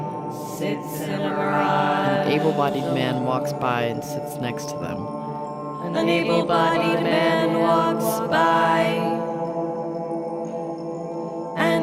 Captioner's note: chanting in call and response